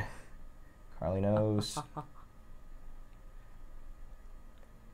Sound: laughs

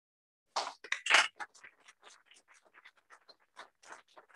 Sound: applause

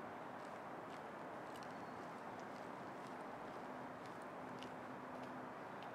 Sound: none

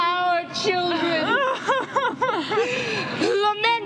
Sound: crying

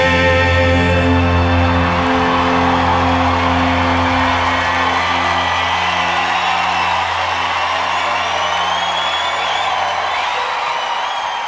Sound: crowd Cheering

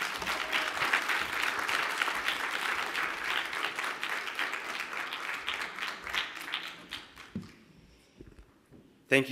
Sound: applause

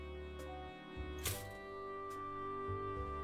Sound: toaster sound

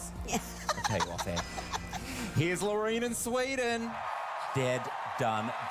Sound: Myf laughs

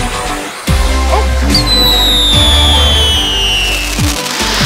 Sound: festive music; fireworks whistling; fireworks exploding

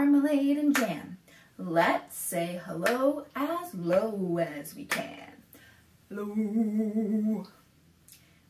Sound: low-pitched

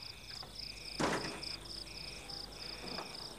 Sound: door bangs

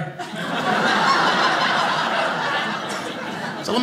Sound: audience laughing

